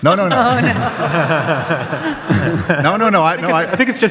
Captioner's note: audience laughs